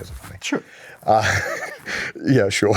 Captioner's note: giggles